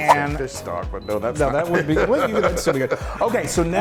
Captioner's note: men chattering